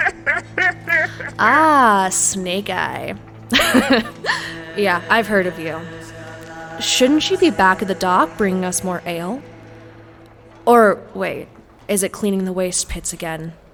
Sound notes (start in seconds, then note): 0.0 laughing; 3.5 chuckle